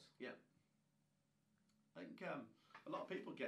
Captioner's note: none